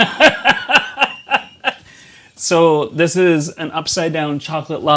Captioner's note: laughs